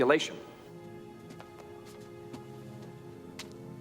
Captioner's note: footstep